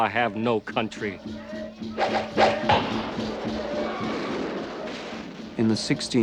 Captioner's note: indian Chants/ Tomahawks Whirring